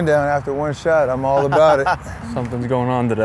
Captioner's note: laughs